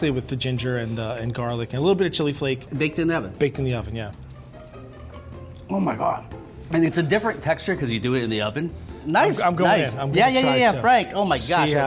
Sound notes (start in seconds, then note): 5.4 chewing